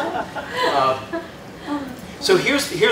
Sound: laughter

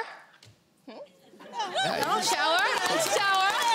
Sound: hesitant applause

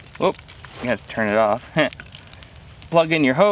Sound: chuckles

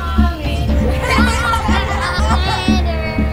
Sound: students laughing

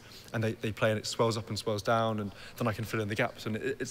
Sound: none

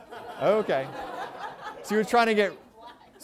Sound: laughter

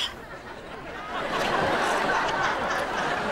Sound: laughing

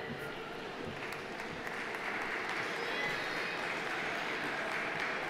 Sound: audience applauding

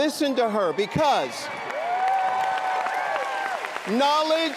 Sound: applause and cheering

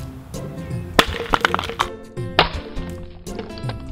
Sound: smashing

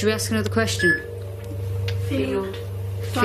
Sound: loud beeping

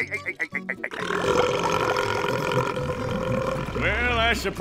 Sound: laughing; belching

